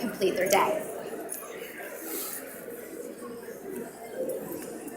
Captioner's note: audience mumbling